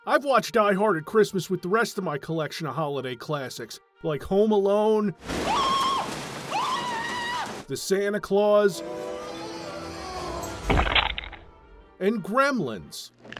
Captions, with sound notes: I've watched Die Hard at Christmas with the rest of my collection of holiday classics, like Home Alone… *screaming* …The Santa Clause… *Duke Nukem 3D squish sound* and Gremlins!